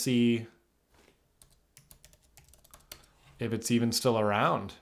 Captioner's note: keyboard clicking